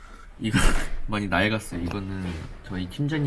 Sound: laugh

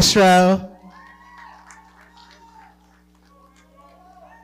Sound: audience cheering and clapping

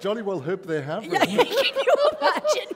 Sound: laughter

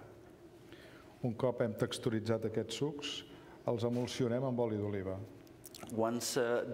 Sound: speaking catalan

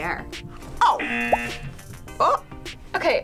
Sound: buzzer

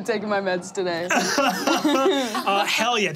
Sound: all laughing

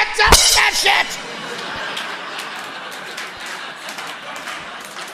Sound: audience laughing

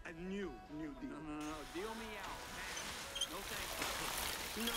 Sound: lightning; water running

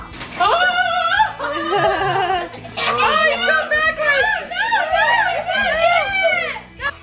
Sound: all laughing and squealing in excitement

